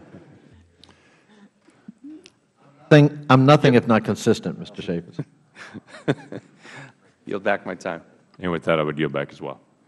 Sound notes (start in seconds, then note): 5.5 laughter